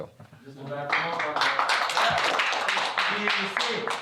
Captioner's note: students applauding